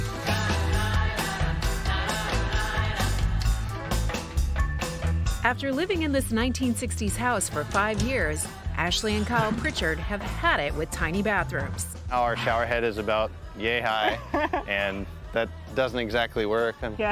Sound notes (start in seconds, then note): 14.0 laughs